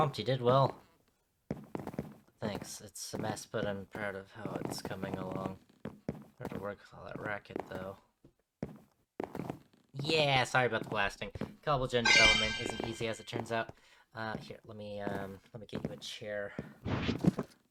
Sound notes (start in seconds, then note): 4.2 mumbles